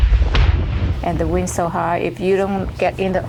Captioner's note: multiple explosions boom